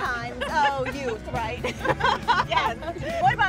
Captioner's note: laughter